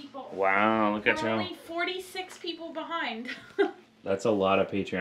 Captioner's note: laughs